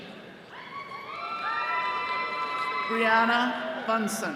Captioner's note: attendees cheering